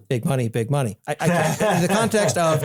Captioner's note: laugh